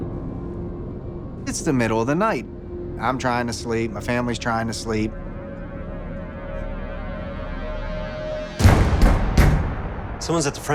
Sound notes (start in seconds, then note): 8.6 knock. Knock. Knock